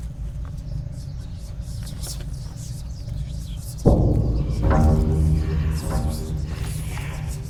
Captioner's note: disembodied whispers; dramatic, ominous music